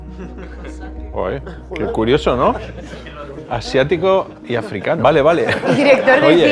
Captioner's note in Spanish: Risas